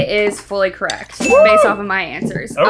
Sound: bell ding

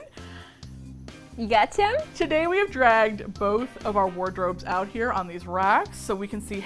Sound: sweetly

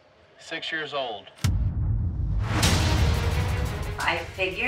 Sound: suspenseful music; whooshing

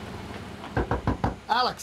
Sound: Max knocking

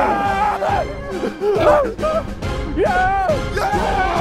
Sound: men cheering

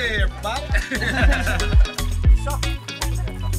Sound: laughter

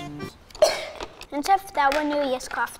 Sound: girl coughs

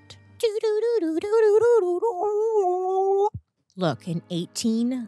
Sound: imitates chilling music

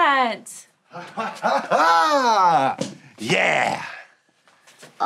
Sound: chuckles

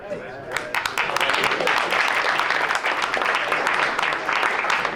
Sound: crowd applauds

